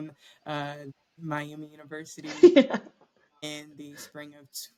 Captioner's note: laughter